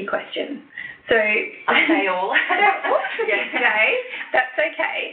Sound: laughs

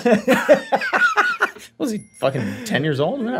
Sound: all laughing loudly

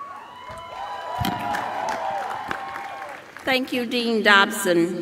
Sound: cheers and applause

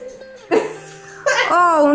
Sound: laughs

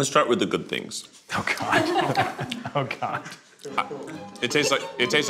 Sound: laughs

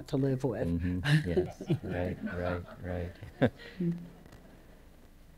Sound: laughter

